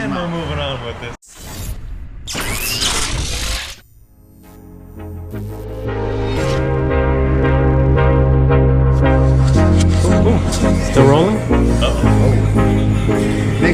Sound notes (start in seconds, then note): 2.1 electric zapping; 4.6 electronic music